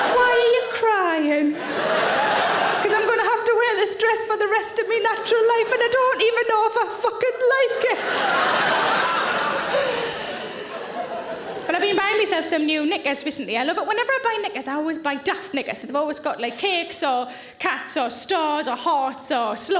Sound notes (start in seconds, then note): 1.4 audience laughing; 7.6 audience laughing